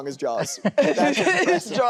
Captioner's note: chuckles